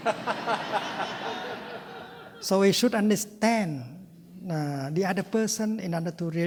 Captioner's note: laughter